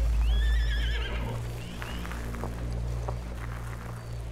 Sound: tense music; horses neigh; tense music

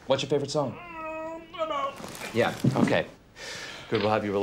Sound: groaning

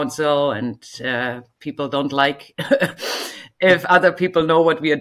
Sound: chuckles

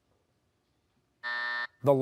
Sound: buzzer

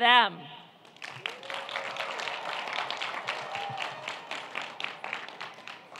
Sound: audience applauding and cheering

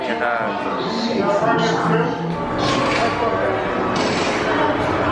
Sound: background commotion

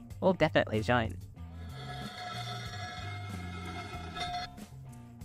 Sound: scraping

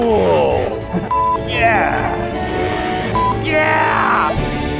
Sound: beep

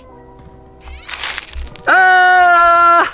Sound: robot buzzing; rocks rattle

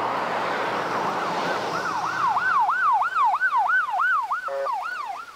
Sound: police sirens

